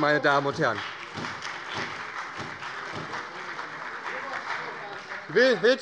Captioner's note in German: Beifall bei der SPD